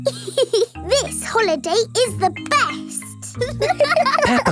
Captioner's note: giggles; laughing